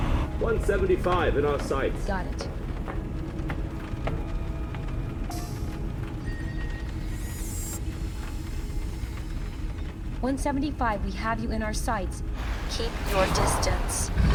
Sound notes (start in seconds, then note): 5.3 machine beeping; 13.3 creature roaring